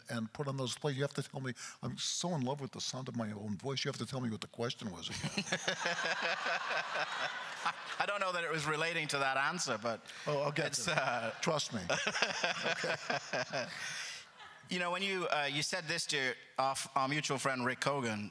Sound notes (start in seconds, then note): 5.1 giggles; 5.2 crowd laughter; 10.5 laughs